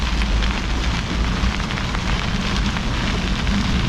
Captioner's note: bicycle whining